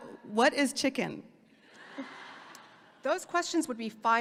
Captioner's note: audience laughing